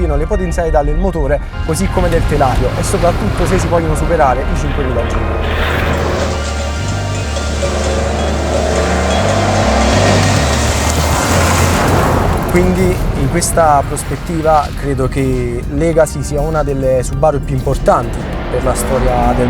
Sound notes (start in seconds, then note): 7.6 sound engine; 7.6 synth music